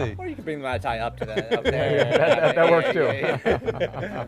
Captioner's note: all laughing